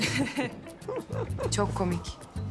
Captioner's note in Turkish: Gülüyorlar